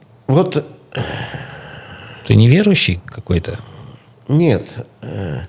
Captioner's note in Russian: откашливается